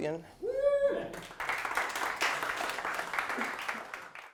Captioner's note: applause